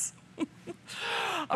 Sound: laughter

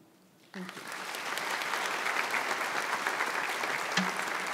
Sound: audience applauds

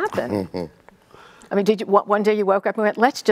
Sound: Nelson chuckling

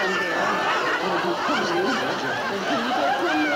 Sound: audience laughing

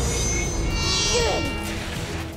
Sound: grunting

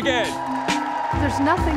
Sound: crowd cheering and applauding

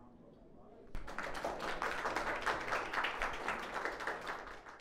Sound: audience applauding

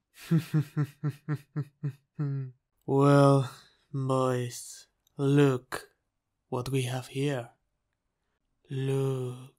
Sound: sinister laugh

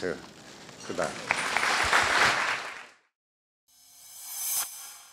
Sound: applause

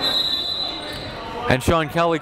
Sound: whistle blows

